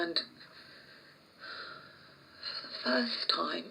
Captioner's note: sighs